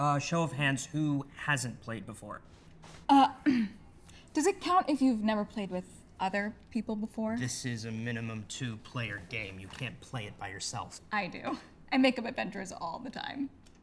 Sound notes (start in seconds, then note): 3.3 clears throat